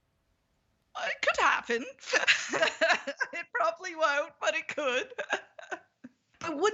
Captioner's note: laughs